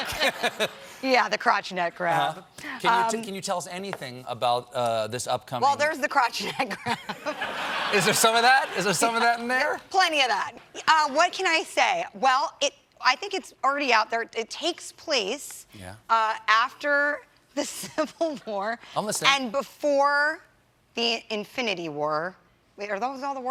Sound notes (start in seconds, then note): 6.4 laughter